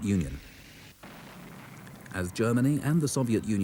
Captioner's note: shells blast